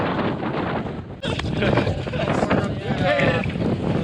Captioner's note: laughing